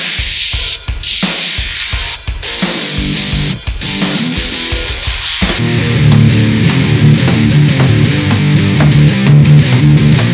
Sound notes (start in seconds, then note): 7.2 hammer knocking